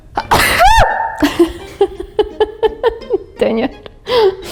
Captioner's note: sneezes; laughing